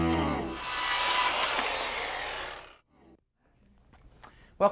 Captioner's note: saw blades cutting wood